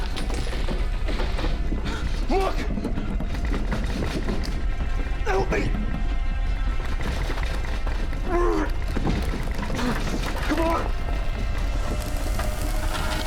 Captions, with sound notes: Look! Help me! [grunting] Come on!